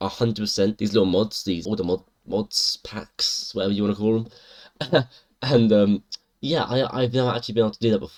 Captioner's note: chuckle